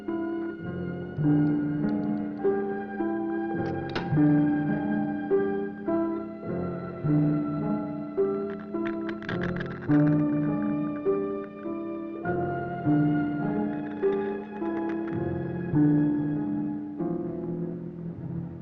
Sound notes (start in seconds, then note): 6.7 dramatic orchestral music continues; 8.8 bones crunching